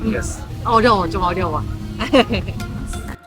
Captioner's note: Korean